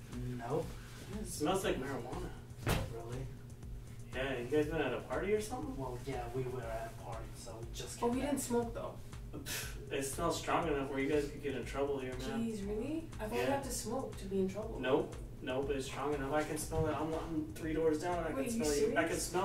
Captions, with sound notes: -No! Oh really? -Smells like marijuana. Yeah. You guys were at a party or something? -Well yeah... We were at a party so we just came back. -But we didn't smoke though. -[scoffs] It smells strong enough where you guys are gonna get in trouble here man -Jeez... really? I though you had to smoke to get in trouble. -Nope! No but it's strong enough. I can smell. I'm three doors down. -Wait... are you serious?